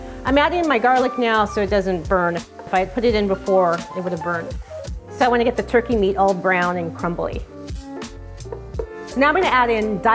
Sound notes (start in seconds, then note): 8.4 tapping